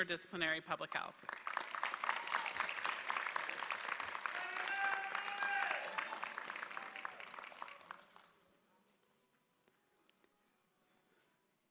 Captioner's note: applause